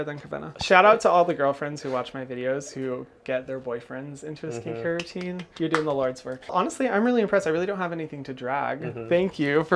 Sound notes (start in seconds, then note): 4.9 claps